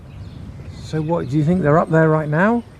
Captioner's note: voiceover